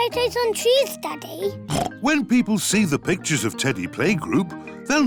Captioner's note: oinks